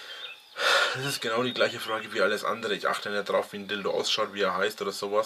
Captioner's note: sigh